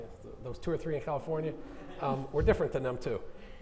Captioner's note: audience laughing